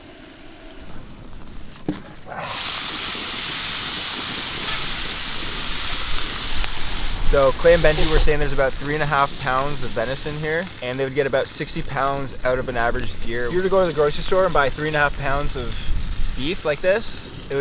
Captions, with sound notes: (loud sizzling) - So, Clay and Ben were saying there's about three and a half pounds of venice in here. And they would get about 60 pounds out of an average deer. You were to go to the grocery store and buy three and a half pounds of beef like this,